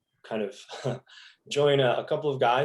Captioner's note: chuckles